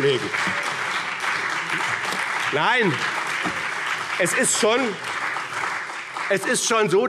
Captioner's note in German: Beifall BÜNDNIS 90/DIE GRÜNEN und CDU